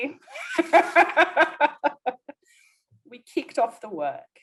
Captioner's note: laughs